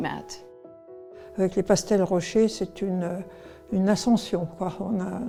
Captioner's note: speaks in French